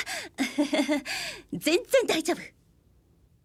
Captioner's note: laughs